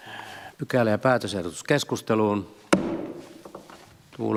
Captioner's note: Nuijan kopautus